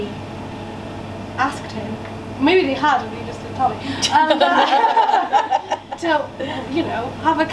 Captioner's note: laughter from audience